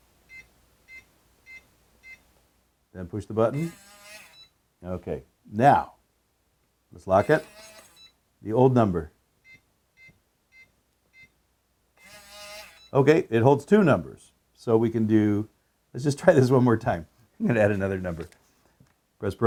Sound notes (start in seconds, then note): 0.1 keypad tone; 9.7 keypad tone